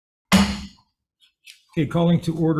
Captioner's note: gavel bangs